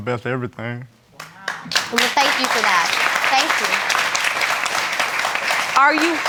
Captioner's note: audience applauding